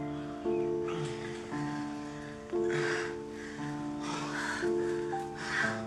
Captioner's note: panting and moaning